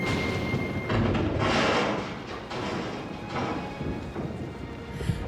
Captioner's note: loud rumbling